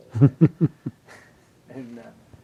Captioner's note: laughing